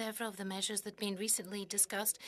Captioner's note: speaking French